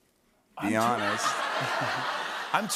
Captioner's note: laughter